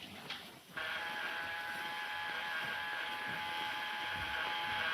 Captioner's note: intercom buzzing